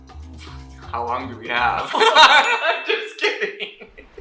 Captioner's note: laughing; laughs